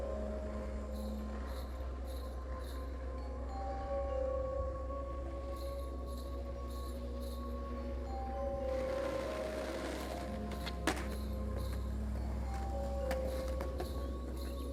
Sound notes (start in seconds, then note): 8.9 skateboard clattering